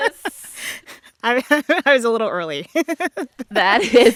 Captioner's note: soundbite of victory tune; laughter